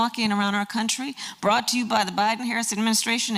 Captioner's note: none